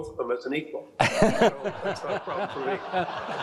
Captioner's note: laughing